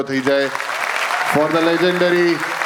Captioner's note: crowd applauding